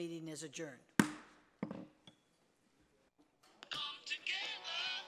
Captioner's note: gavel pounding